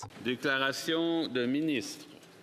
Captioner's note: speaking French